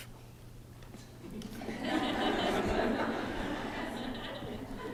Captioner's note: laughter